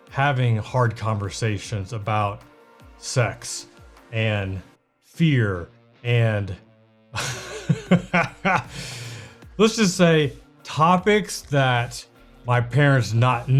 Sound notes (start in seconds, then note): 7.2 laughs